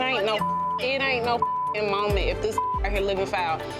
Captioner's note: beep